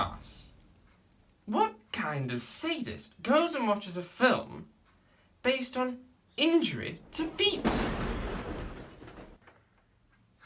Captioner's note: explosion